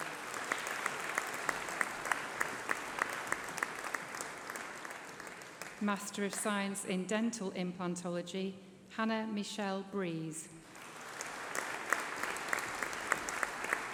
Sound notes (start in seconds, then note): 0.0 applause; 8.3 applause